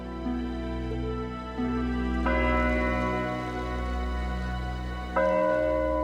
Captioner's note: bell tolling